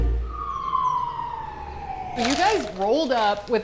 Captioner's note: siren wails